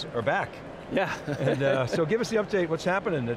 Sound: laughs

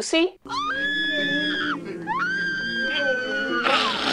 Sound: Lucy screaming

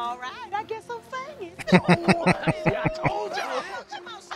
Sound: laughing

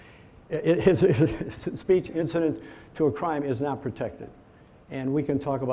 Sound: laughs

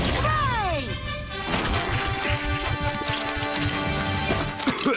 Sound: squishy sounds; coughs

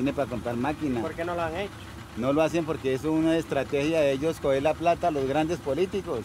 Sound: speaking in foreign language

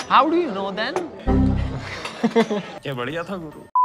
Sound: laughing

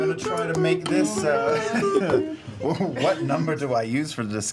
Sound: keyboard sounds

